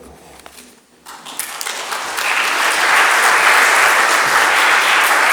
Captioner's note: audience applauding